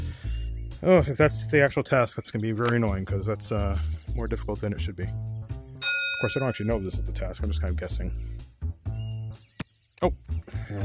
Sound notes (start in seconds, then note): 5.8 ding